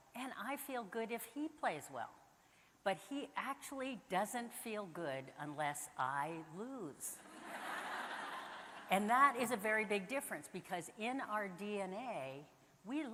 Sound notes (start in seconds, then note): 7.5 audience laughing